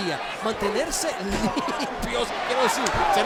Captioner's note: laugh